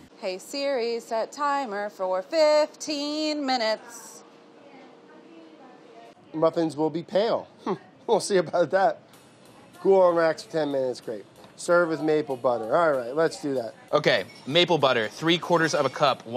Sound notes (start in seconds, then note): 7.6 scoffs